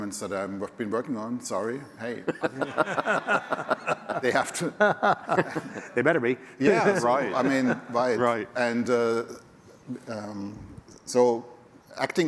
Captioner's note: laughter